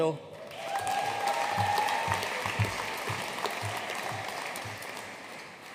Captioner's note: audience cheering and applauding